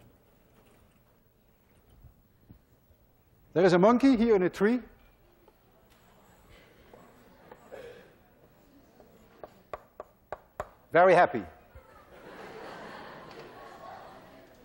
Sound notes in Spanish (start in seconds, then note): 11.8 clase se ríe